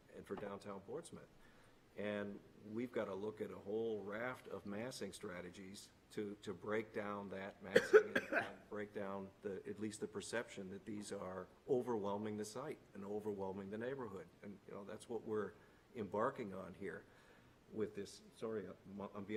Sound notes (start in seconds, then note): 7.7 cough